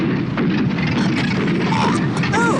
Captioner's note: engine sputters; Toad coughs